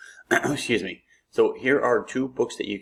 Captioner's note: clears throat